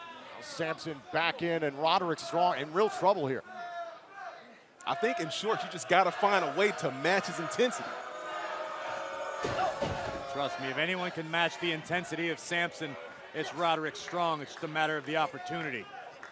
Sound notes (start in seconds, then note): 8.5 crowd cheering